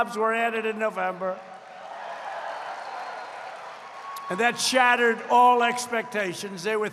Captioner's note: applause